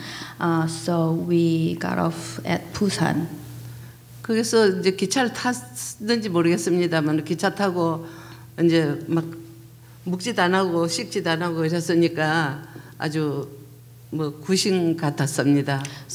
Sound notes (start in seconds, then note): 4.8 speaking foreign language